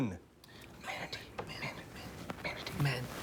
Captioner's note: all whispering